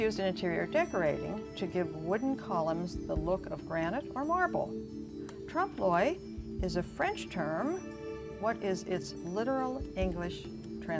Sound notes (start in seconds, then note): none